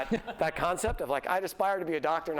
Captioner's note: laughter